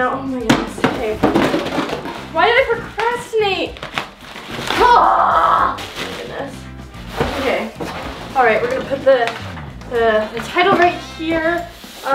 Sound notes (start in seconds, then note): 4.7 cries out